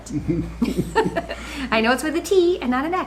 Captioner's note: chuckle